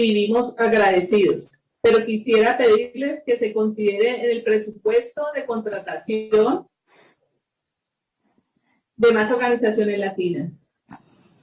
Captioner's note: speaking spanish